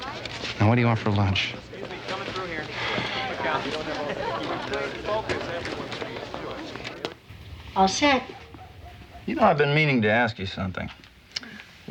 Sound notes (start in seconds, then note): 2.6 sighs